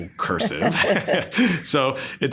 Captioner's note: both laughing